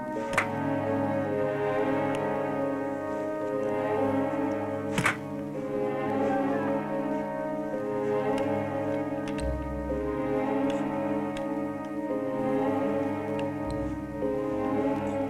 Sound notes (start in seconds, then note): none